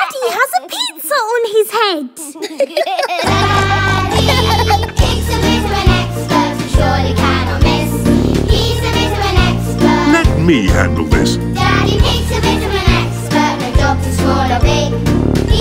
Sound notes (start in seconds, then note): 2.2 laughter; 3.4 singing; 11.5 singing